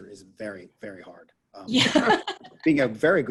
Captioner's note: laughs